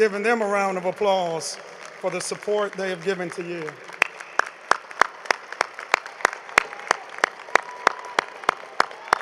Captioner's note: applause